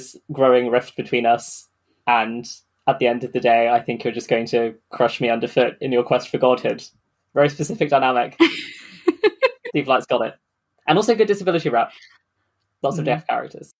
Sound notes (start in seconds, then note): 8.7 laughs